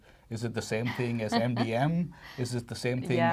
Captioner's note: laughs